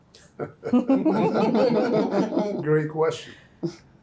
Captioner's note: group laughs